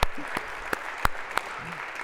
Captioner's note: applause